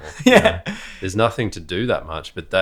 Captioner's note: laughs